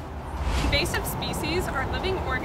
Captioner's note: logo whooshing